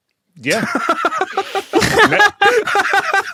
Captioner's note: giggles; laughs harder; laughs heartily